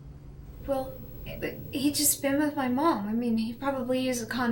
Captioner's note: stammers